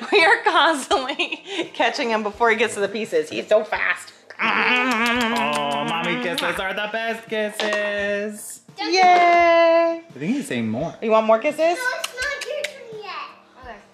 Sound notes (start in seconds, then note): 4.4 kissing noises